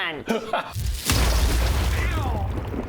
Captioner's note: boooomm!!!!